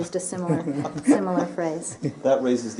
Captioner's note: laughter